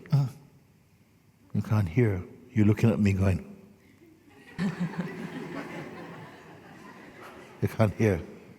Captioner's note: laughter